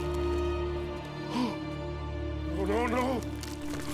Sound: gasps

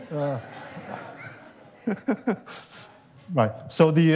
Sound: laughter

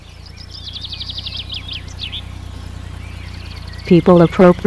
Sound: birds tweeting

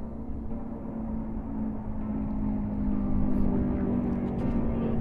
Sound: car engine roars

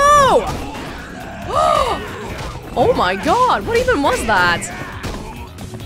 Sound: gasps

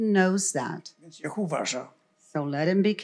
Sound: foreign language

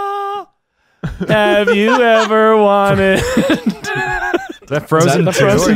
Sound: laughing

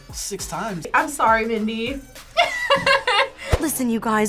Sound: laughs

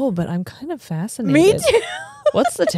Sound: laughs

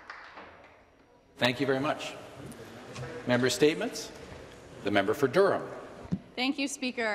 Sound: some Applause

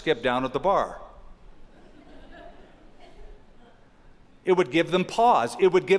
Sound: laughter

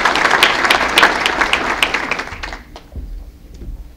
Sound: applause

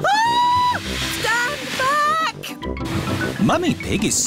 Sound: shrieks

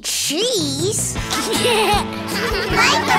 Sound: laughing

